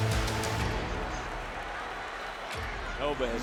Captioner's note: audience cheering